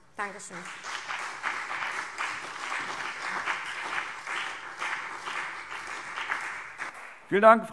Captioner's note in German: Beifall CDU und BÜNDNIS 90/DIE GRÜNEN